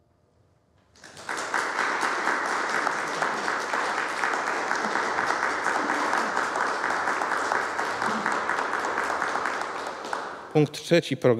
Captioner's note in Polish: oklaski